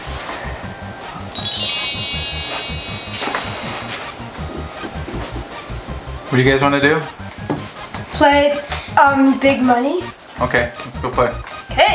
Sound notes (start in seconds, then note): 1.2 sparkle sound effect